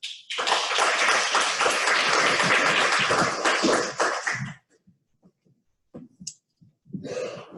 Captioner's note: clapping